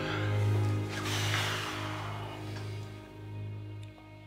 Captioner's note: sighs